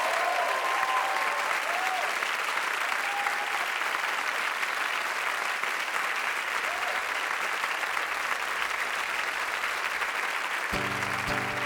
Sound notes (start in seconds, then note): 0.0 audience applauding, cheering